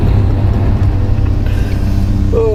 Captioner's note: panting